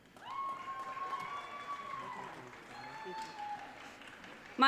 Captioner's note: audience cheering